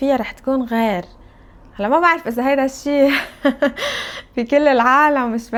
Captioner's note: laughs